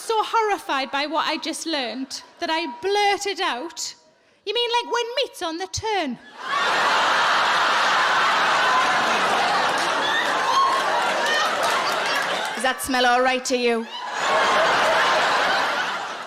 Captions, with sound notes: I was so horrified by what I just learned, that I blurted out, "You mean like when meat's on the turn?" (audience laughing) Does that smell all right to you?